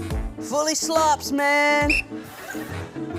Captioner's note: whistle blows